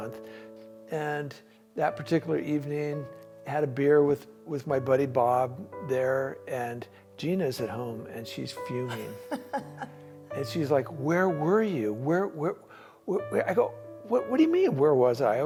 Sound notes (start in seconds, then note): 8.8 laughs